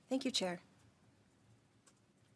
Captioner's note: speaking French